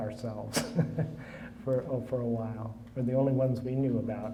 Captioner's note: laughing